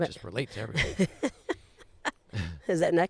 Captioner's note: laughs